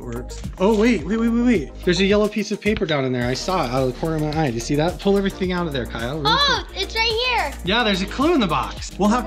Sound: none

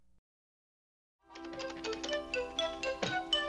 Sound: dialing phone

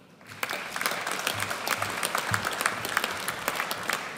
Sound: audience cheers

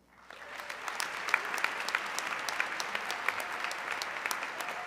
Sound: audience clapping

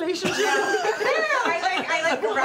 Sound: laughter

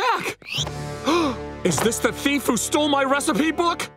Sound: gasps

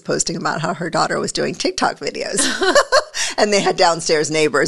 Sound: laughs

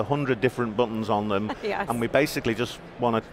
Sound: laughs

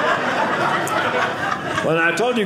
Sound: audience laughing

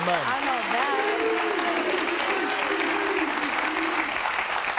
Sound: audience applauding

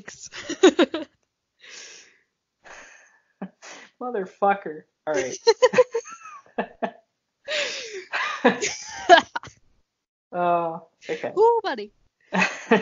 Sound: sighs

